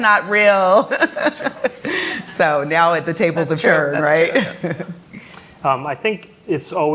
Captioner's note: laughs